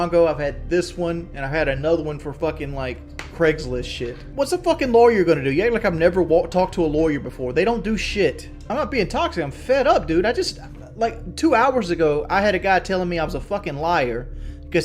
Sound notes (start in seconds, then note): none